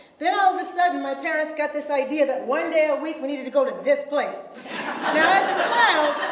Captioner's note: audience laughs